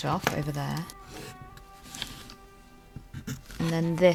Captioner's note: pencil scratches